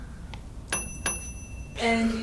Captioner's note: bell dings